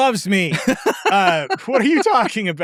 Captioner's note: laughing